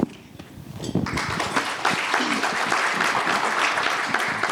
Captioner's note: audience applauding